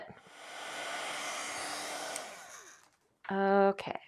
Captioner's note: blow dryer whirring